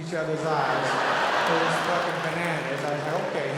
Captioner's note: audience laughing